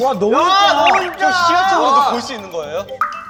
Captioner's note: the building owners complaining